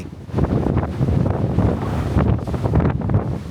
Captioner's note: sound of strong wind and crashing waves